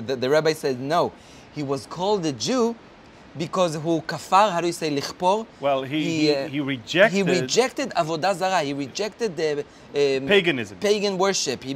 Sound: speaking Hebrew

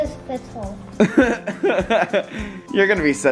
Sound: laughs

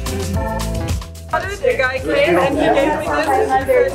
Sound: chatter

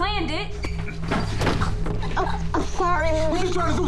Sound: choking

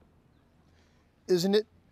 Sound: speaking Hebrew

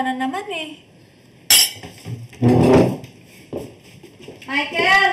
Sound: spoon clinks, chair thuds

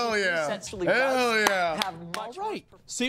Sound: clapping

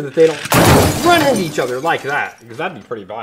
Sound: crashing

